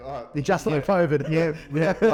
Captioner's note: laughing